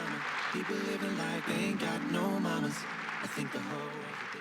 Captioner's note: applause